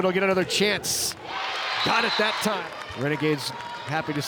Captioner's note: audience cheering